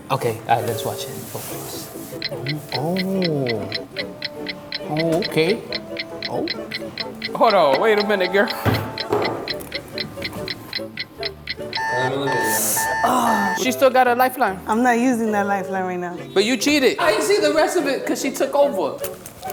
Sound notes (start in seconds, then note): 2.2 clock ticking; 8.9 clock ticking; 11.8 alarm ringing